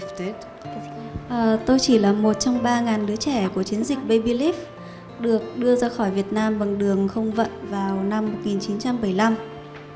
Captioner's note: woman translating to Vietnamese